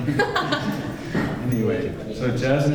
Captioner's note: laughter